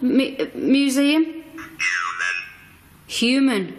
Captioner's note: OVILUS buzzing